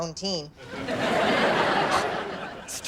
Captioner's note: audience laughs